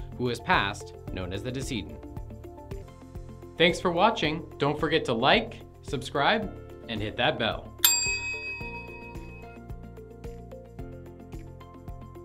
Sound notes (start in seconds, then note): 7.8 bell chimes; 8.7 gentle bright music